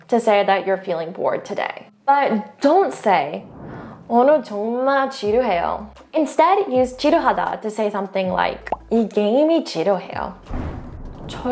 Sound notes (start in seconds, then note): 3.8 speaking in Korean; 6.8 speaks in Korean; 8.6 bubble bursting; 8.7 speaking in foreign language; 10.5 whooshing transition music